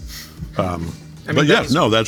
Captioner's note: chuckling